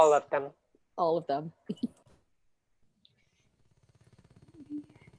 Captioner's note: laughs